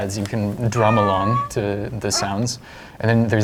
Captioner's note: various animal sounds